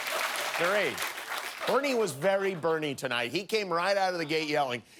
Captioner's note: applause